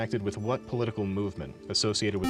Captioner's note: beep